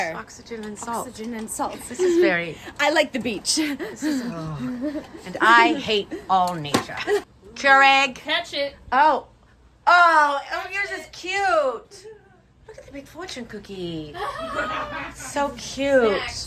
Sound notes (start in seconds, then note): 3.5 laughing; 14.1 laughing